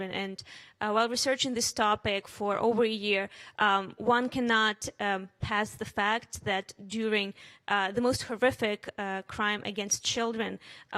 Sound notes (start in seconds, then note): none